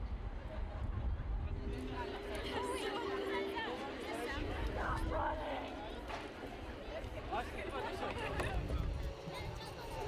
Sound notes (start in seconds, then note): 1.8 crowd talking